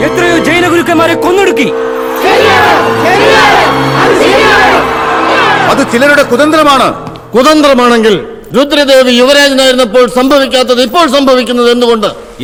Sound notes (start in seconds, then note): 2.1 multiple voices in assent